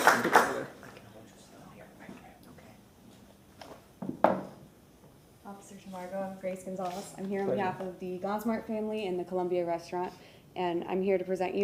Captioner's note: applause